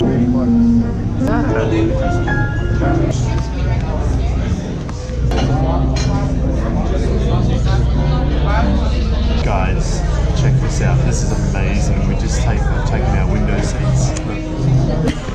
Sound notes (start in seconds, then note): 0.0 lively piano music; 5.6 crowd murmuring